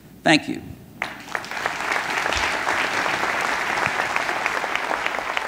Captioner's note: audience clapping